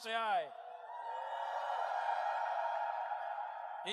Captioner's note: crowd